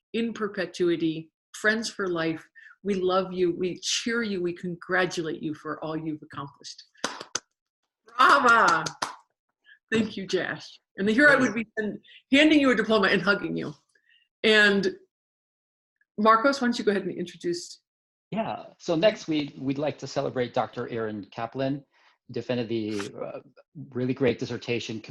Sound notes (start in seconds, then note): 8.2 attendees applauding